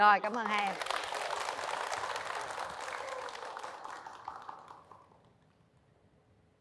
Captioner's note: clap